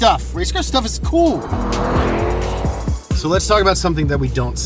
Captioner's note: engine revs